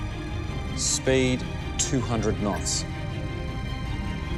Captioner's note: radar bleeping